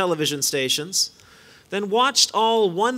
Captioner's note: none